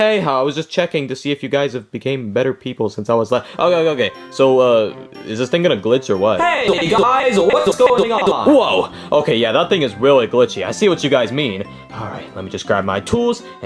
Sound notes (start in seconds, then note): 7.8 voice glitching